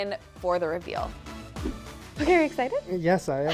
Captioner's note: view fwipping; giggles